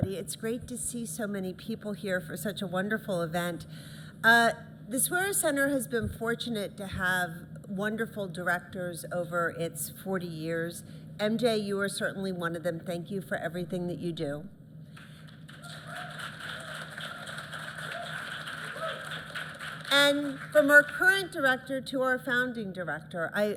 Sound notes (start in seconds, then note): 14.9 applause